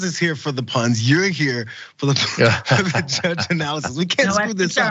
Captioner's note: laugh